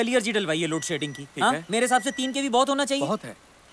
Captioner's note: Phone chimes